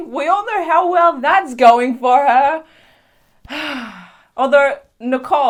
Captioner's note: small gay sigh